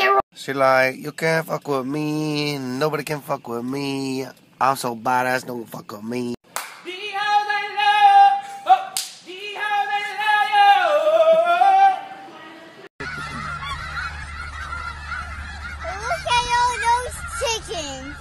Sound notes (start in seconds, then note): 6.5 claps